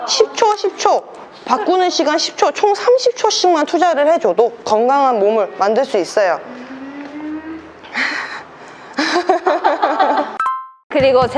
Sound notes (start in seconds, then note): 8.9 laughter; 9.1 ha ha ha ha ha